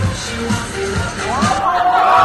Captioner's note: audience cheers wildly